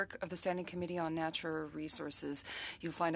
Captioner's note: speaking french